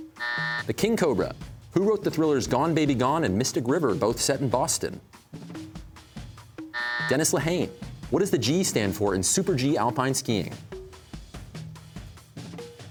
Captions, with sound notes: (buzzer) The king cobra. Who wrote the thrillers "Gone Baby Gone" and "Mystic River," both set in Boston? (buzzer) Dennis Lehane. What does the G stand for in Super G alpine skiing?